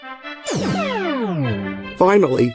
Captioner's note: teleportation sound